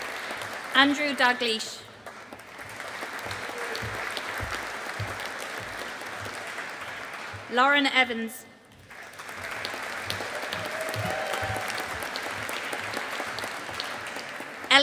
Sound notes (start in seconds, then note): 2.0 audience applauding; 8.7 audience applauding